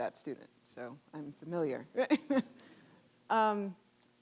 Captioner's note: laughing